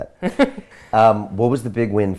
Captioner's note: laughs